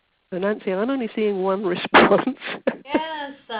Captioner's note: laughs